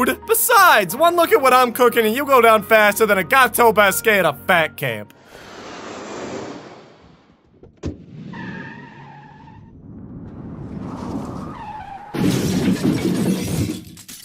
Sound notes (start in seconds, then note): 5.1 whooshing sound; 7.6 car door closes; 7.8 tires screech; 9.4 car whooshes; 12.1 crash